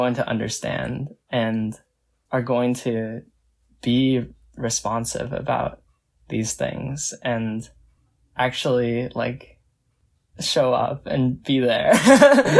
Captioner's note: laughs